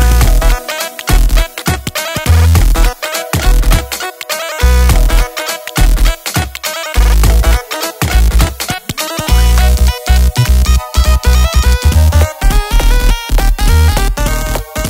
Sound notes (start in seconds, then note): 0.0 cute beeping melody over low beats; 0.6 cute beeps in harmony; 8.9 upbeat beeps and higher pitched beats